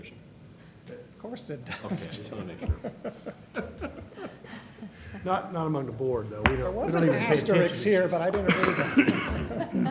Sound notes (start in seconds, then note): 1.7 laughter